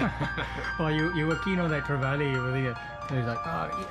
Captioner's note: man laughing